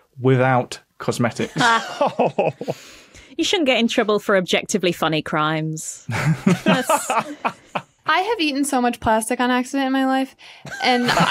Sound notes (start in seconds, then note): 1.5 cringe-laughs; 6.1 laugh